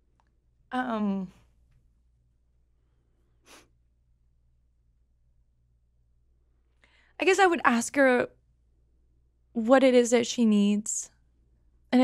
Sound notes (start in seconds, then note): 3.7 crying quietly